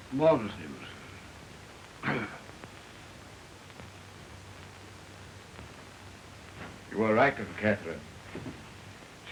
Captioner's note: coughs